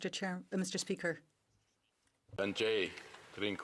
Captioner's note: speaking in french